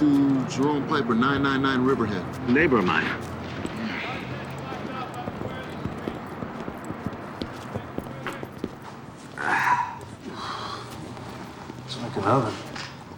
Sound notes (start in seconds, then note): 4.5 indistinct chatter; 9.2 sighs